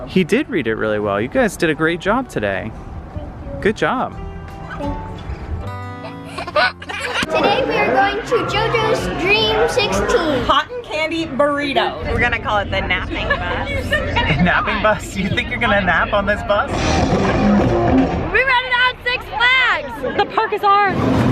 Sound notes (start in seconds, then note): 5.9 laughing; 6.0 cheerful music; 16.7 rock music